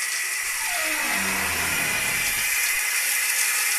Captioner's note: door creaking